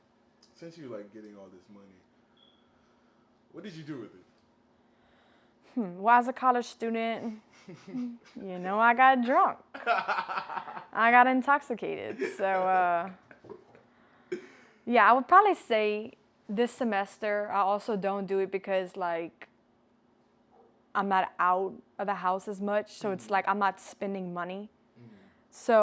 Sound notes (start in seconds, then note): 9.7 chuckles; 12.0 laughs